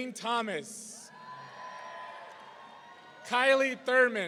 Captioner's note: audience cheering